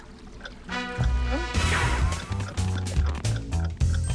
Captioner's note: clock ticking; ticking speeds up